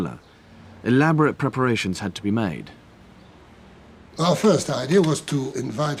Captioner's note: laughs